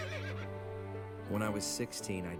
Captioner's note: horse whinnies